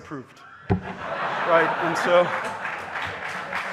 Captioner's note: audience laughing; audience applauding